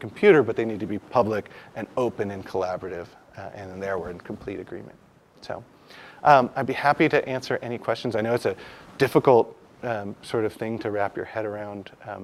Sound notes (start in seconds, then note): none